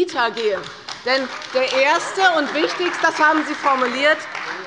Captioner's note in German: Beifall bei der CDU